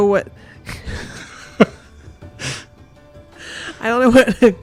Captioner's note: laughs